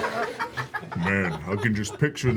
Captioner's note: laughter